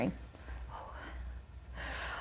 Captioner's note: sighs